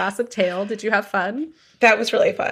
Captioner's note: deep breath